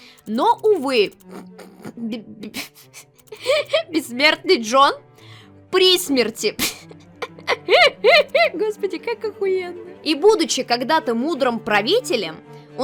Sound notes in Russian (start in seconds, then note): 3.2 Сдерживая смех; 7.2 смеётся